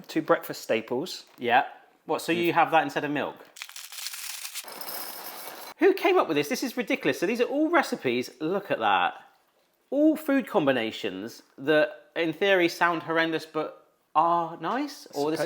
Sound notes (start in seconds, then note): 3.5 bag crinkling; 3.5 cereal rattles